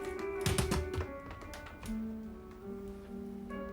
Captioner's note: metal rattling